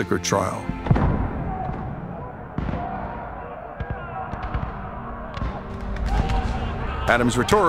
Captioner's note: battle cries